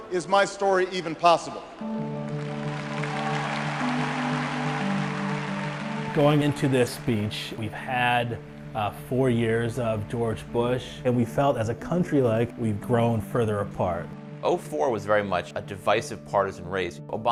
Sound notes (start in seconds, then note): 2.2 upbeat music; 3.6 applause